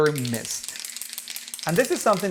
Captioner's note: can clattering